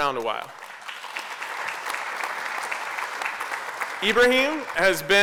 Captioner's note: applause